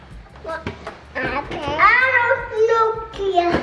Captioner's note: babbling